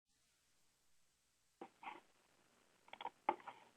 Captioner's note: several seconds of silence